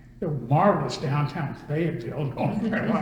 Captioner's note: all laugh